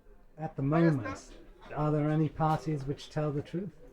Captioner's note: voiceover